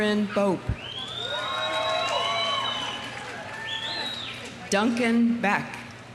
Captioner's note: audience cheering; audience applauding